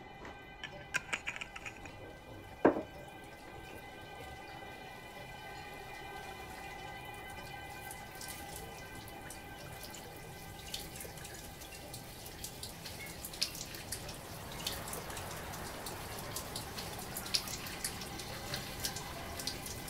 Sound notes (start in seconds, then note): 8.2 water dripping